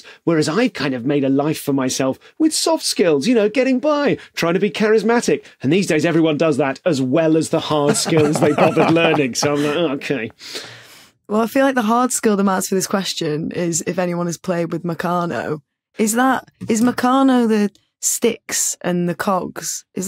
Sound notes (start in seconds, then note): 7.8 others laughing